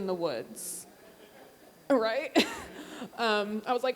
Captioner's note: audience laughing